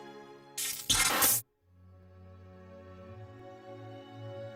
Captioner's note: buzzing